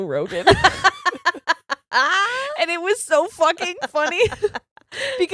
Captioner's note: both laughs